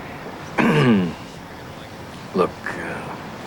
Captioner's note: clears throat